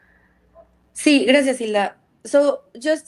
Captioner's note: speaks in Spanish